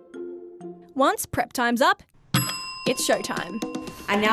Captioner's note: bells rings